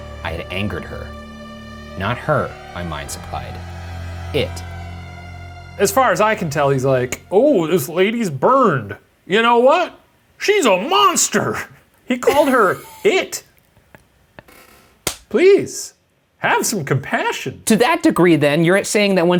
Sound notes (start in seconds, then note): 12.2 laughing; 13.1 hands clapping